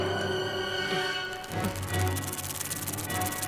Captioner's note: weird hissing sound